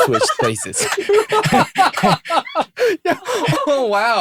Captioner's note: laughter